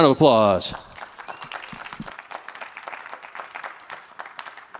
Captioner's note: applause